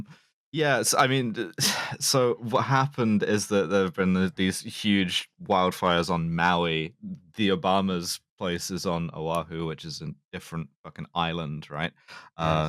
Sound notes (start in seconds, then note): 1.4 sighs